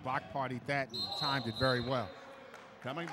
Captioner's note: whistle blows